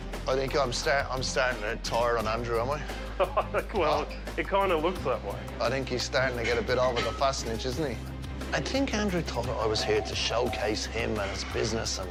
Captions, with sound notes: I think I'm starting to tire on Andrew, am I? (LAUGHS) Well, it kind of looks that way. I think he's starting to get over the Fassnidge, isn't he? I think Andrew thought I was here to showcase him and his business